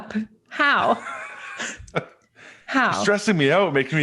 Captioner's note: both chuckles